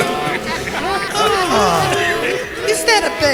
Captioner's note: laughter